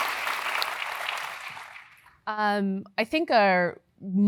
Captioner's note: applause